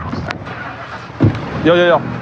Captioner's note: enginstarts